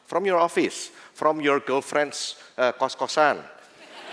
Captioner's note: non-english; laughter